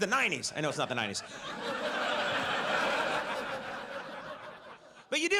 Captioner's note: audience laughs